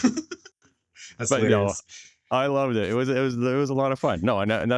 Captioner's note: laughter